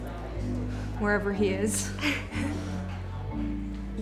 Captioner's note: Claire laughs